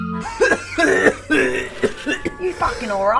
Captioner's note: coughing